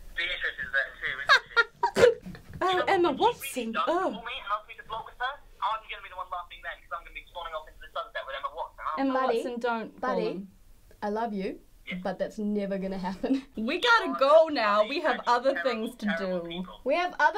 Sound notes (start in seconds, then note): 9.0 regular voice